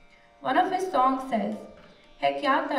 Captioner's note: non-english speech